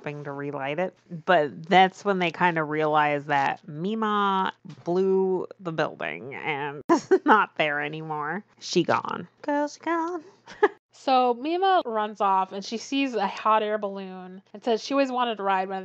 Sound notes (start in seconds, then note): 10.1 laughs